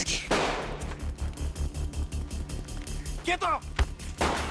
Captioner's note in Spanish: Disparos